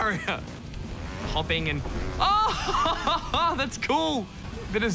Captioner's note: laughs